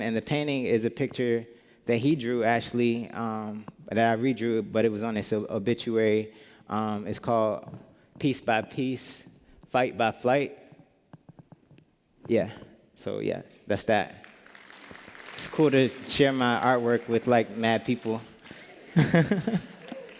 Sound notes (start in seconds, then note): 14.1 applause; 18.8 laughter